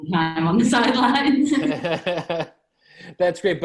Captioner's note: laughs